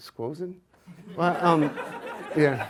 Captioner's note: audience laughs